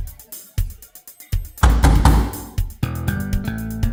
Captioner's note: knock, knock, knock